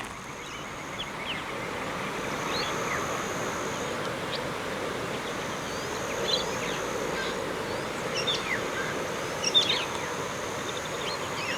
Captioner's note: wind noise and birds chirping